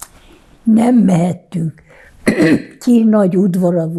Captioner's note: coughing